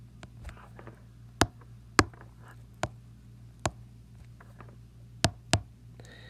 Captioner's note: tapping